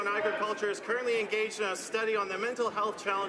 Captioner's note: some Applause